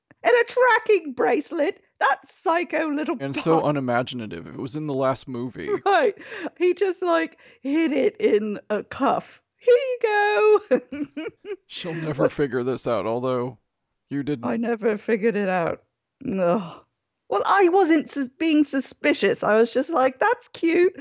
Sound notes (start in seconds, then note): 10.2 giggles